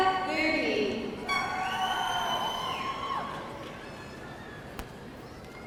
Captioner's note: audience cheering